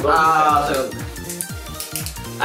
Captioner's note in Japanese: キャップを開ける音